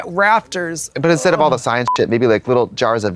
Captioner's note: beep